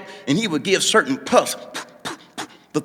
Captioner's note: puffing pipe